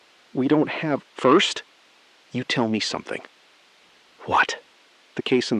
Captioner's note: SILENCE — 4 sec